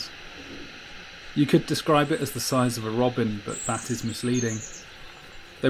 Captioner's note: robin high pitch trills